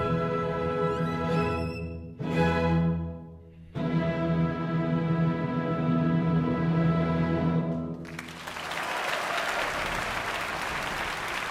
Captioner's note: applause